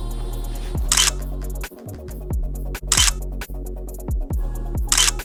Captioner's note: camera shutter clicking